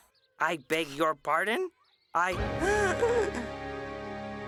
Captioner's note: gasps